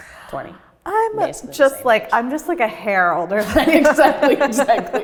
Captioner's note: laughs